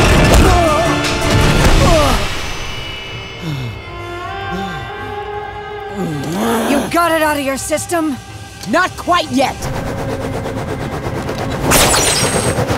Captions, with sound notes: [grunting] [breathing] You got it out of your system? Not quite yet!